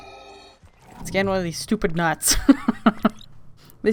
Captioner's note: laughs